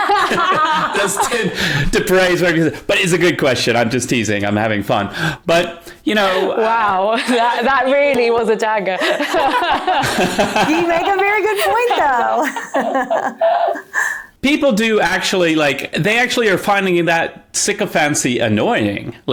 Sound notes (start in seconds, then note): 0.0 people laughing; 9.0 laughs